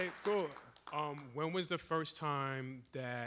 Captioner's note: applause